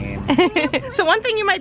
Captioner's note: laughs